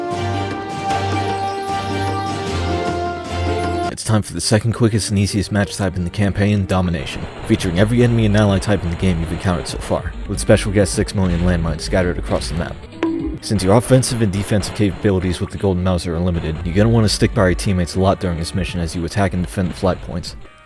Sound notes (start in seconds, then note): 12.8 bonk